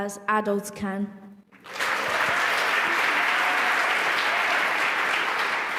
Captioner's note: applause